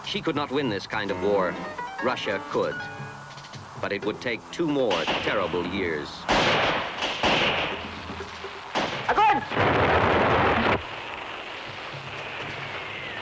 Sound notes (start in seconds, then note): 6.2 guns firing